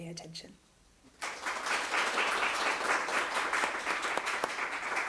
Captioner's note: everyone applauding